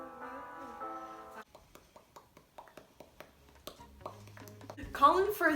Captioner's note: obnoxious mouth noises